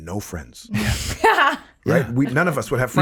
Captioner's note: laughing